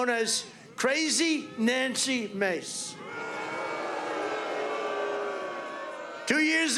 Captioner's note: audience jeers